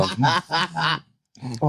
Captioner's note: laughing